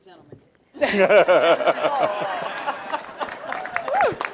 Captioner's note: laughter